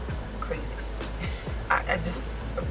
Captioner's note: laughs